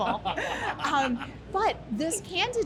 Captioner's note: laughter